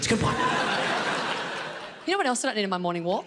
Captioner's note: audience laughing